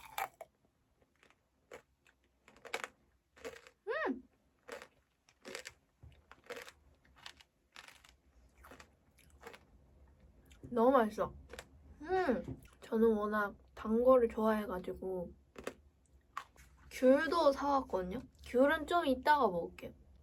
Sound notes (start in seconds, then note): 2.8 crunch, crunch